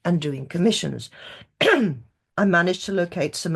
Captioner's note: clears throat